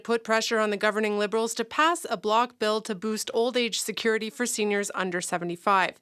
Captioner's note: speaking in french